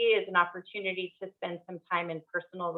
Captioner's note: none